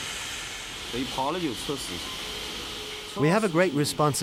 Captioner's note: speaking in foreign language